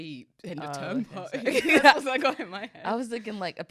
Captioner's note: both laughing